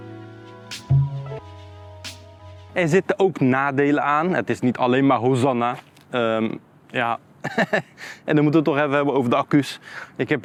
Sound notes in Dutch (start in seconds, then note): 7.4 gelach